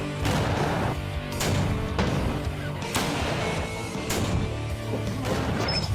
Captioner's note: gunshots